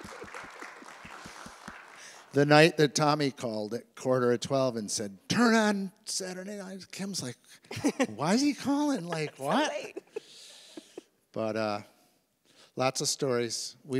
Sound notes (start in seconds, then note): 0.0 audience applauds; 8.9 laughs